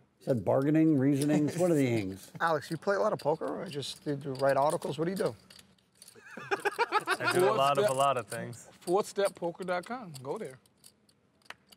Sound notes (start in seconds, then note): 6.2 laughter